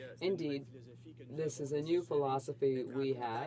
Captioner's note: speaking French